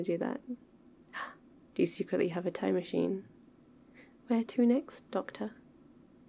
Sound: gasp

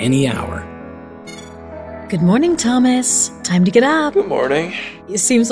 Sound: beeps

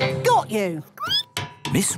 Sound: squeaking

